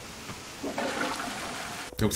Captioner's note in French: Bruit de chasse d'eau dans le jeu